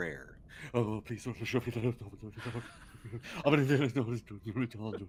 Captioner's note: Cornette laughs